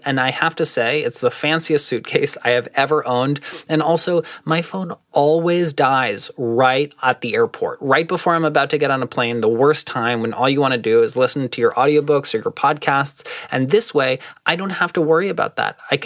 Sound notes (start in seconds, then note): none